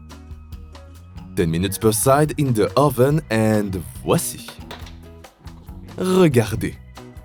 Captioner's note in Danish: taler fransk